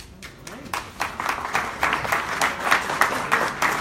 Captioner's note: applause